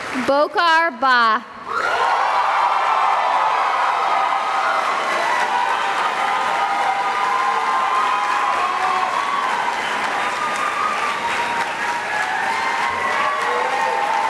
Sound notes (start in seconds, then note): 1.6 cheering and applause